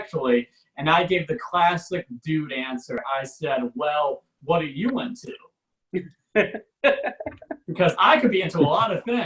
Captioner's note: audience laughs